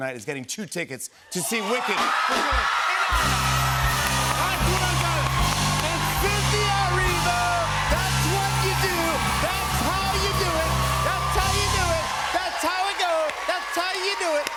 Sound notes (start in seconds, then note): 2.6 cheers and applause